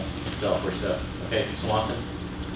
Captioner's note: voiceover